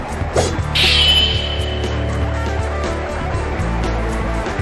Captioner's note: sword clanging